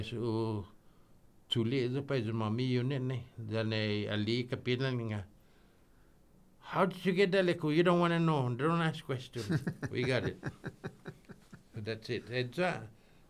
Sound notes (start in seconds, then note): 9.4 laughing